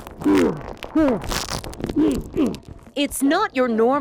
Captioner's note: aggressor grunting